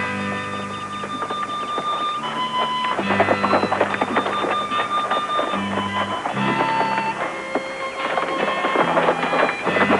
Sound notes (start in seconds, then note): 0.6 homey music; 2.8 hooves clopping; 6.8 clopping continues